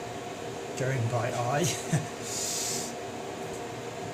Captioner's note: chuckle